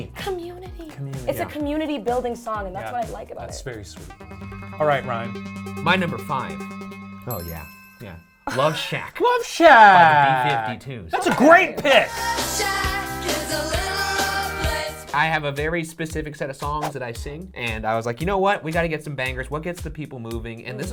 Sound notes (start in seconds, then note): 6.5 suspenseful music; 7.9 chimes dinging